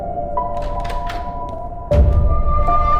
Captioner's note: door opens sound